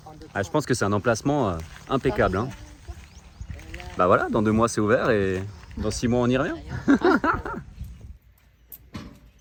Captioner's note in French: rires